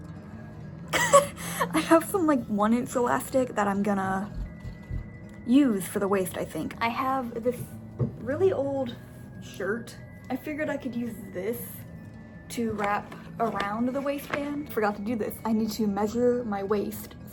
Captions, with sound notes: [laughs] I have some, like, 1-inch elastic that I'm gonna use for the waist, I think. I have this really old shirt. I figured I could use this to wrap around the waistband. I Forgot to do this-- I need to measure my waist,